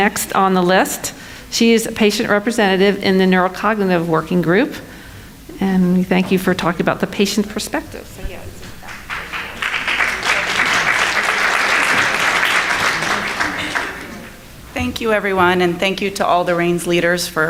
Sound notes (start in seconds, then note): 8.5 audience clapping